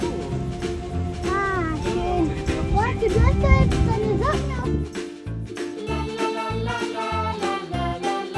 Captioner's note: speaking German; background music